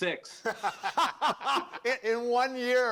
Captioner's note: laughter